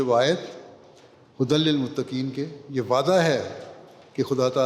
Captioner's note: Arabic